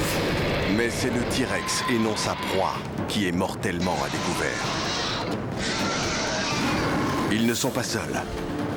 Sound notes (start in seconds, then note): 5.5 both growling